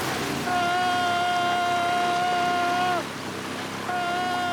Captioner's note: screaming